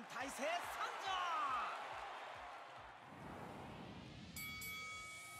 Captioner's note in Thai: ปรบมือ